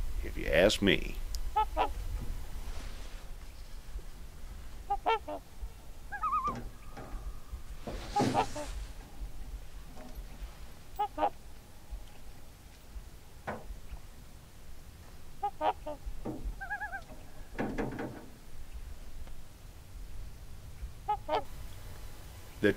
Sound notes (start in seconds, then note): 4.8 swans and loon calls; 16.4 loon calls